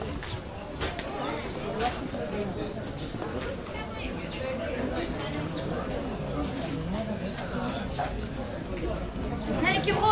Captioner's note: people chattering